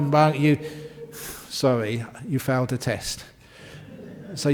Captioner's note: laughter